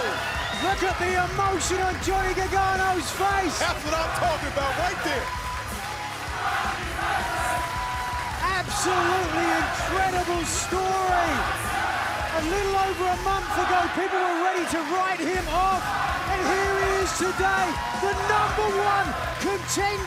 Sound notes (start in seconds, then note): 6.2 fans chanting